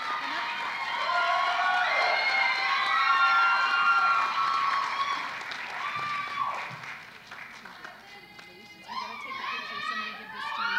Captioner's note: applause